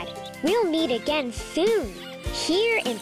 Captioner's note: animals squeaking; lively music